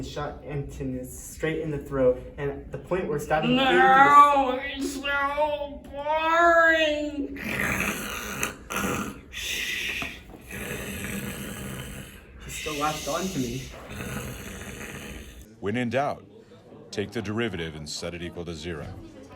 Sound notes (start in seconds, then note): 7.3 intense Snoring